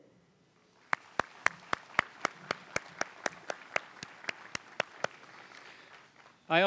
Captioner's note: applause